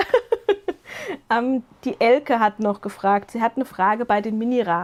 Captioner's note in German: gelächter